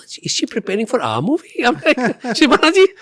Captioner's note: laughs